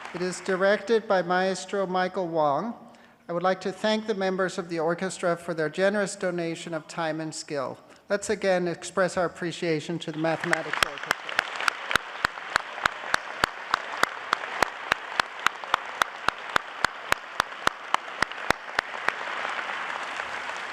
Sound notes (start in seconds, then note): 10.0 applause